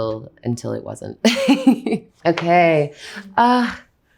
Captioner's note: Anya laughs